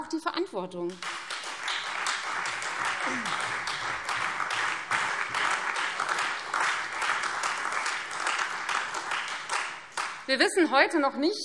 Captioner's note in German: Beifall Freie Demokraten, SPD und DIE LINKE